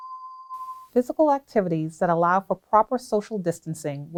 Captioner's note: bell tone